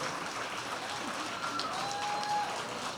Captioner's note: cheers and applause